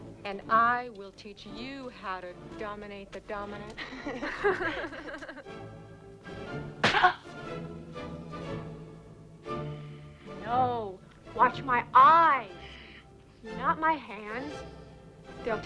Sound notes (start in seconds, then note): 3.7 both laugh; 6.8 slaps face; 7.1 Tracima grunts